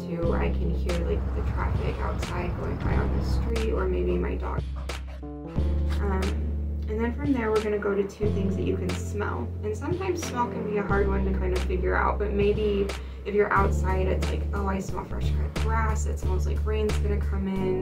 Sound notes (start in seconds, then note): 0.7 traffic noise; 4.5 dog panting